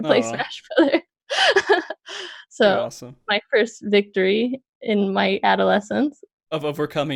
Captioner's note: laughs